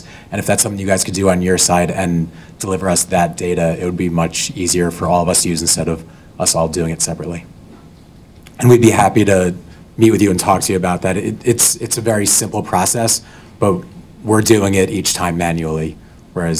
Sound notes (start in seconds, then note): none